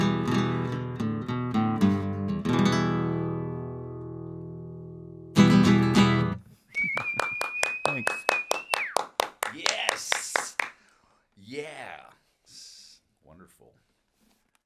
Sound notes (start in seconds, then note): 6.6 clapping and whistling; 8.3 chuckles